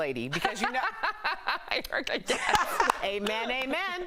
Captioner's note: laughter